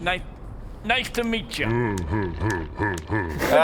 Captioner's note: floppy flesh sounds